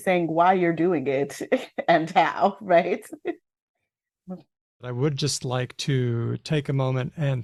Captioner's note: laughs